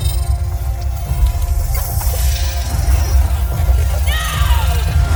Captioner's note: glitching intensifies